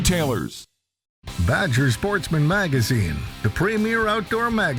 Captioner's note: voiceover